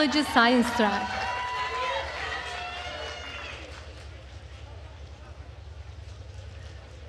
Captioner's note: attendees cheering and applauding